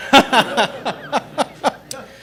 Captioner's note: laughter